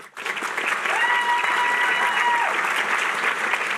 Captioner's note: cheering